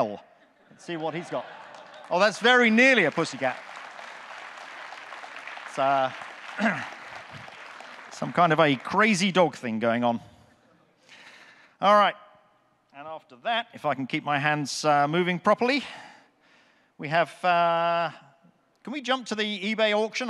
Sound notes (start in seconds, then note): 4.6 audience clapping